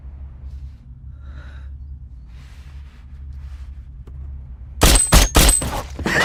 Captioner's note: breathing loudly; gunshots